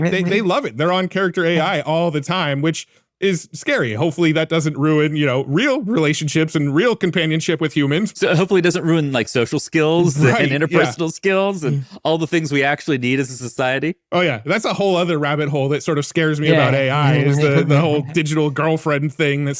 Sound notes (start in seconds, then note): 17.1 chuckles